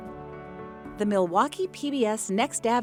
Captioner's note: voiceover